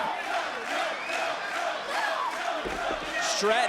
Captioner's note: crowd cheering